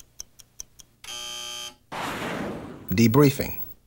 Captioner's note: buzzer